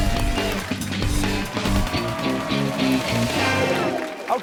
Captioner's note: cheers and applause